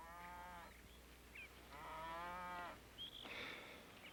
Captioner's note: cows mooing